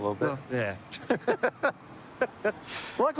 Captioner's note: laughter